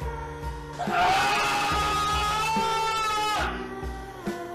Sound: more screaming

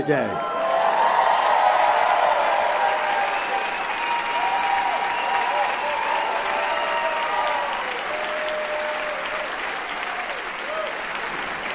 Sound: loud applause and cheers

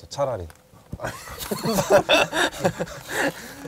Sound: laughing

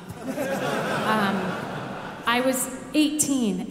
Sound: audience laughing

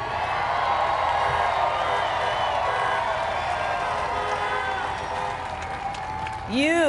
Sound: crowd applauds

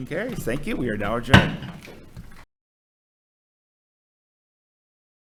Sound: gavel thuds

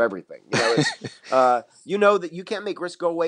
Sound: laughs

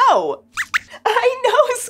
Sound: squeaks squeaks

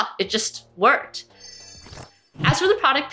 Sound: jingling sound

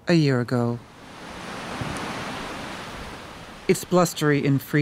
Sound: wind and waves crashing

